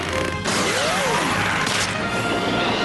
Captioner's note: snap!